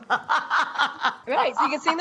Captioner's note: laughing